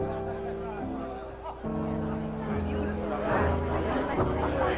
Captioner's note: guests chatting